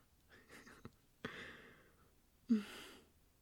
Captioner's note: he giggles a bit